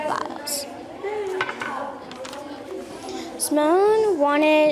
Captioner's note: students chattering